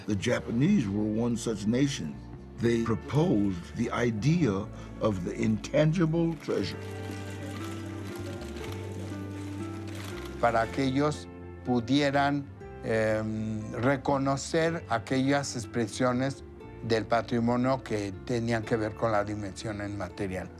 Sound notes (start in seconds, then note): 6.8 camera bulbs flashing; 10.4 in Spanish